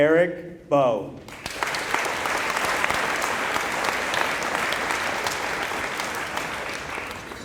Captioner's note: applause